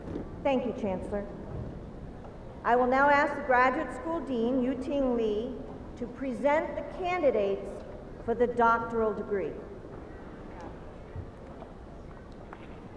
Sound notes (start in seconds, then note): none